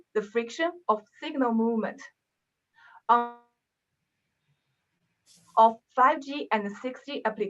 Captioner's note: audio cuts out